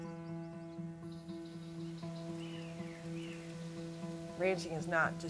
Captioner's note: birds chirping